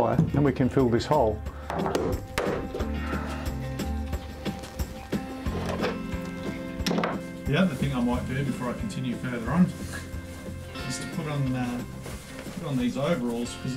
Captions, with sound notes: then we can fill this hole. (light knocking) The other thing I might do before I continue further on, is to put on these overalls,